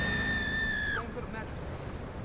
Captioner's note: screaming